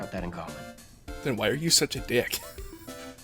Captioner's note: wheeze